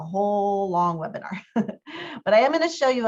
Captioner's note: laughter